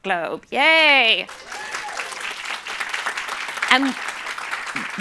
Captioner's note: cheering and applause